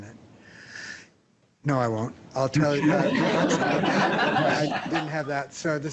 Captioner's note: laughter